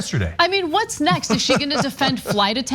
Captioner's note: laugh